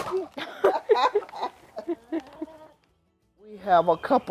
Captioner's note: both laugh